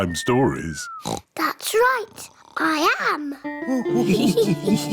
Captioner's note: oinks; all laugh